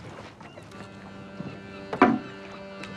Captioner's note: ship's horn blowing